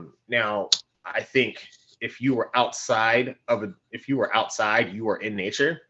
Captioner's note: clicking